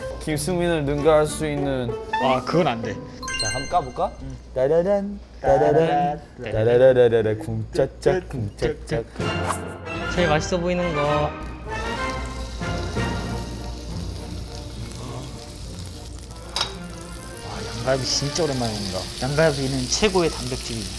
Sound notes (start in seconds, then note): 11.8 sizzle; 13.8 the sound of the sizzling meat